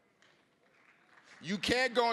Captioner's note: scattered applause